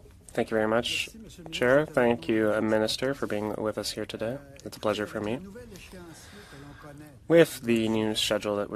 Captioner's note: speaking French